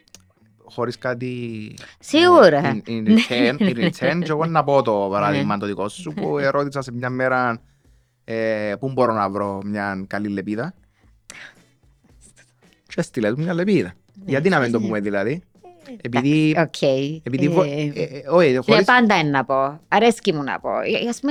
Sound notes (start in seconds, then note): 2.2 she laughs